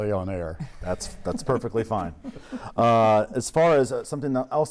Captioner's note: laughing